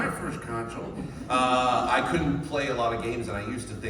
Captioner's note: regular intonation